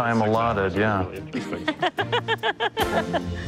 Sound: laughter

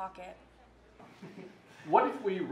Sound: chuckles

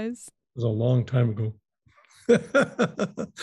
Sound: laughing

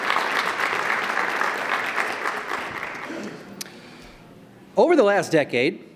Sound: applause

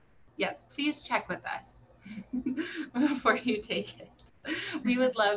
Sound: laughs

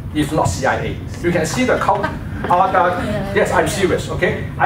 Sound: laughter

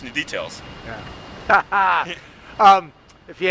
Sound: laughing; laughs

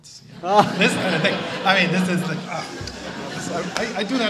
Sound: audience laughs

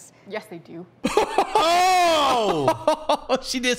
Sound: laughter that sound like a broken car trying to start up

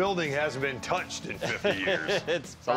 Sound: laughs

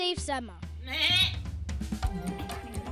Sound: bleating

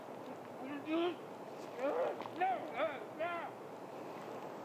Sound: distant grunting

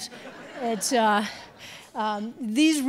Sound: audience laughing

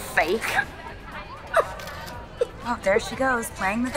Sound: Old Taylor cries

